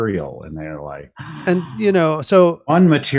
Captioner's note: gasps